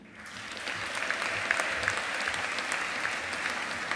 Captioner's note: audience applauding